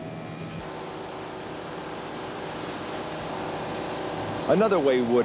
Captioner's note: machinery running